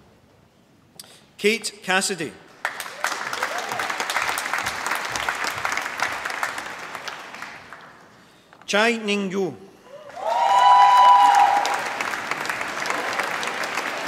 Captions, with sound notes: Kate Cassidy. (APPLAUSE) Chai Ningyu. (APPLAUSE)